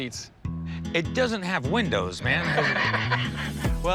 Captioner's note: laughing